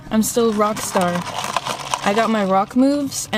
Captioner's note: stirs drink